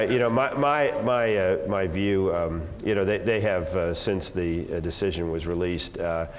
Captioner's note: laugh